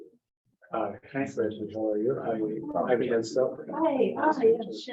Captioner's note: members chattering